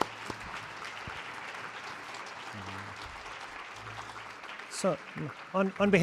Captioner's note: applause